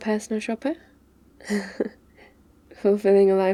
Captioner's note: laughs